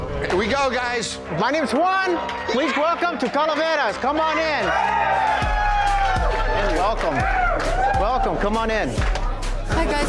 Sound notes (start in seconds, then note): 5.1 patrons cheering